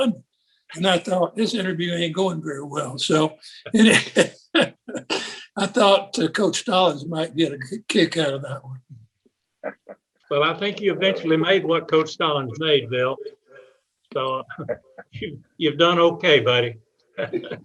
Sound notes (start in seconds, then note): 3.6 laughs; 14.5 panelists laughing